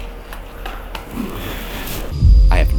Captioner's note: pattering